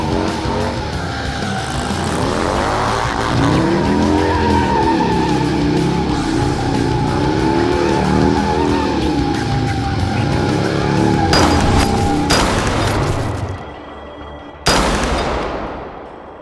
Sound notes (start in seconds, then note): 0.0 motorbike tires screeching; 0.3 intense rock music continues; 11.3 bullets thud; 11.3 gun fires; 13.7 tense music